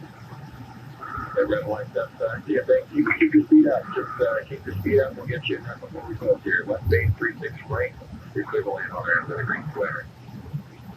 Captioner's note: radio